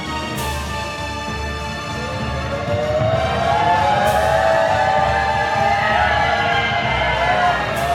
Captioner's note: cheering